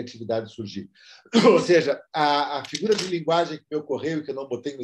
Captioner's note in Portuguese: tosse